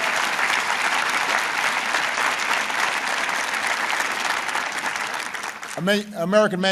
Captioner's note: applause